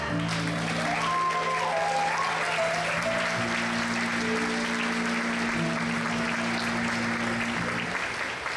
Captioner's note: applause